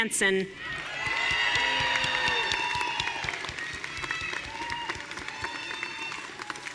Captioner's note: audience cheering and applauding